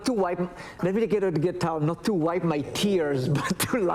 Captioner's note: laughs